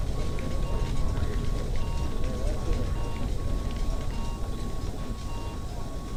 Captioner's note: people chattering; medical equipment beeping